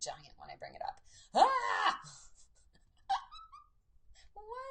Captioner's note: laughs